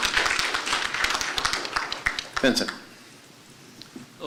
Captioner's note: applause